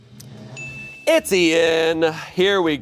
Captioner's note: bell chimes; drum roll hisses